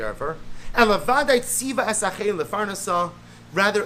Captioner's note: Hebrew